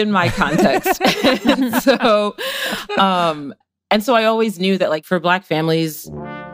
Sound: laughs

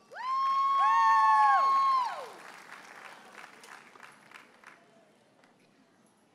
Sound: audience cheers and applauds

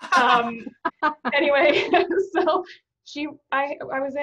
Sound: laughing

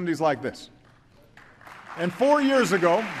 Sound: applause

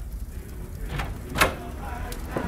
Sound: door opening but not closing

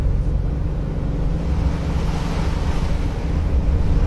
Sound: engine noise

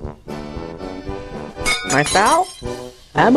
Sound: sound of glass and metal crashing

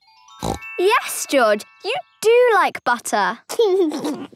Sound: snorting; giggling

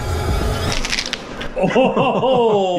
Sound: crunch

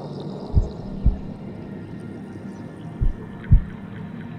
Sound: heart beating

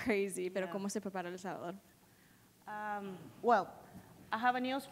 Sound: foreign language

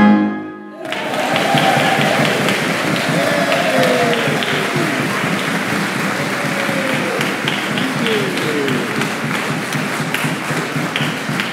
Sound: applause

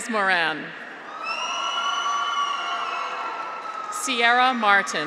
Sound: graduates cheer

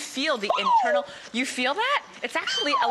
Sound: gasps

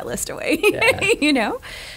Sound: laughing

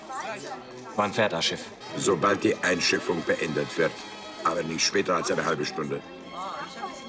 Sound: in German

